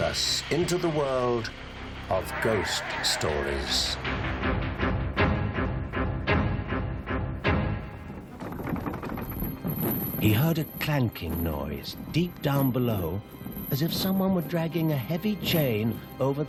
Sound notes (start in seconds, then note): 4.4 suspenseful music; 8.0 cellar rattling